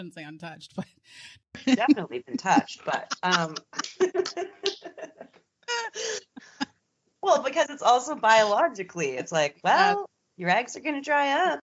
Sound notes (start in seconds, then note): 1.6 chuckles; 5.7 laughs; 5.7 both laughing